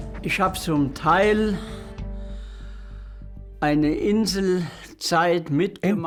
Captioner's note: speaking in foreign language